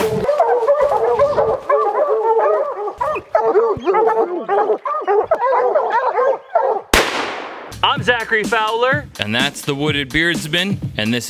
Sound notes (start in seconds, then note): 0.0 leaves rustling; 0.0 dogs barking; 6.9 gun blasting